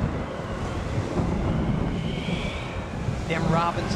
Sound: wind gusting

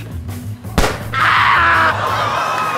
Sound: gunshot; screams

